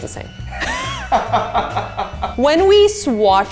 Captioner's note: laugh